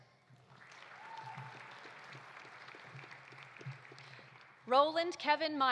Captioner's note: audience applauding; audience cheering